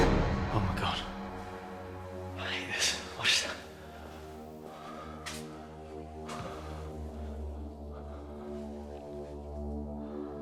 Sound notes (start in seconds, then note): 0.0 dramatic music; 5.6 heavy breathing